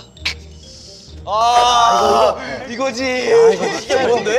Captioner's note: cry of agony